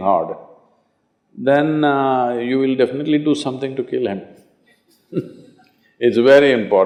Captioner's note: laughs